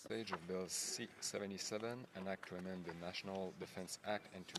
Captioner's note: SPeaking French